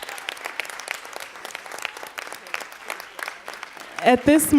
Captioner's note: applause